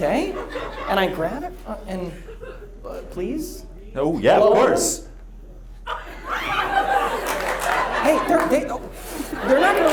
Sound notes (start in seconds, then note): 5.8 audience laughs